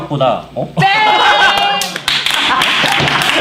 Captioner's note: laughs